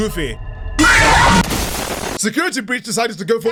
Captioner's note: JUMPSCARE, crashing